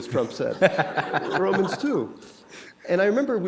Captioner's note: laughter